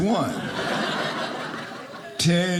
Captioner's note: audience laughing